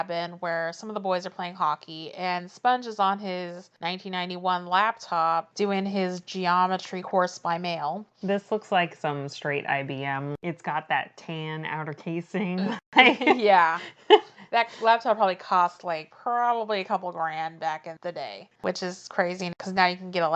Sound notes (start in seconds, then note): 13.7 laughs